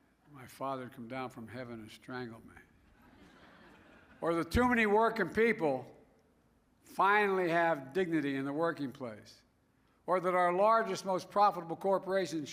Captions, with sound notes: My father will come down from Heaven to strangle me. (Laughter.) Or that too many working people finally have dignity in their working place. Or that our largest, most profitable corporations